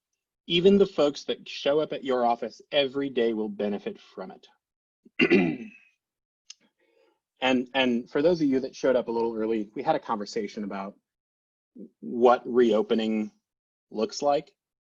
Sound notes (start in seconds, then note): 5.1 clears throat